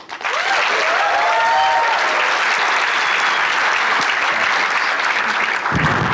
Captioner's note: audience cheering and applauding